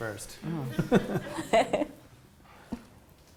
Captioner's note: laughter